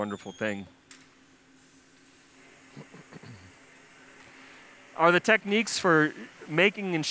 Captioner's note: pause